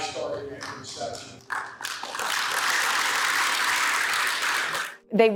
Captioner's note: crowd applauding